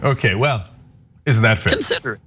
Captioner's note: laugh